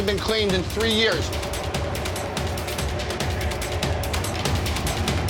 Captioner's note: air roaring